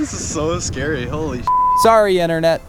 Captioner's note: beep